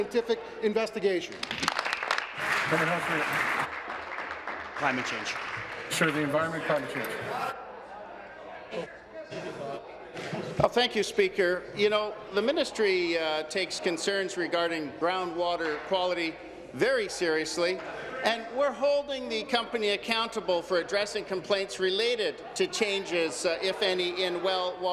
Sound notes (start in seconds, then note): 5.0 applause